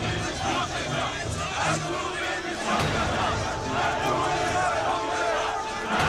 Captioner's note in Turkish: Hep bir ağızdan